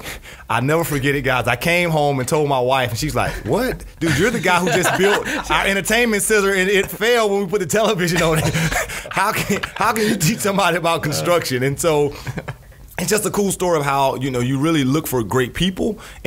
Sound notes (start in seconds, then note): 4.6 scattered laughs